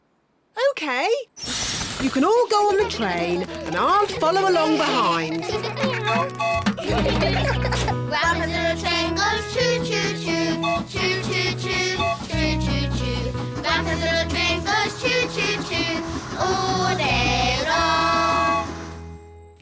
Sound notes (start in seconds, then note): 5.3 all giggling; 6.1 tooting